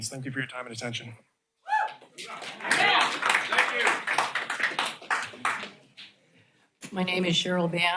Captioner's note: applause